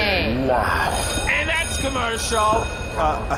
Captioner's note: sound stage bell rings; laughs in disbelief